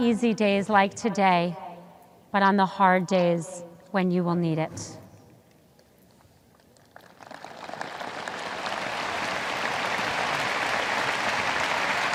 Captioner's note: audience applause